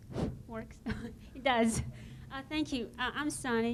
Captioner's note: girl in ponytail laughs